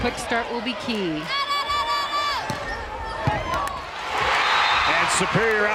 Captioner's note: crowd and players cheering